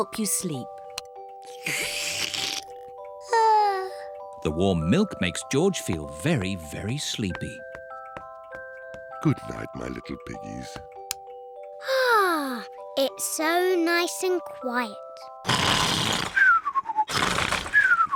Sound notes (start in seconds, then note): 3.6 yawns; 11.8 sighs happily; 15.4 george snores loudly